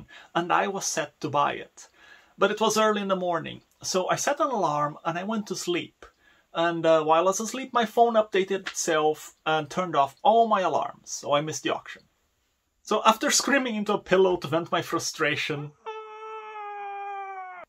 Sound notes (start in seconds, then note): 15.8 muffled scream